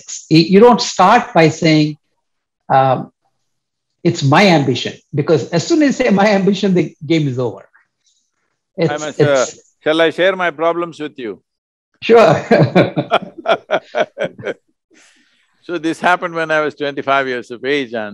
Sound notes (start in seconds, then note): 12.2 laughter